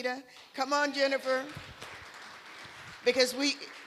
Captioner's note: applause